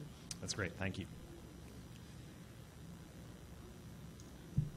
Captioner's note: voiceover